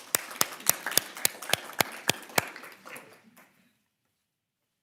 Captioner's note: people applauding